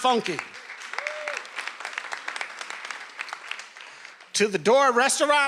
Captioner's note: attendees cheering and applauding